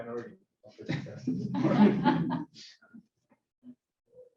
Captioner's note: laughter